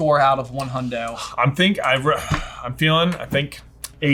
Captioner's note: sighs